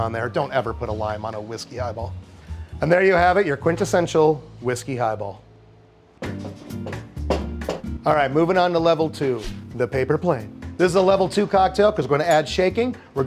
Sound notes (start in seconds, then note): 6.2 cheerful music; 6.4 bottles clacking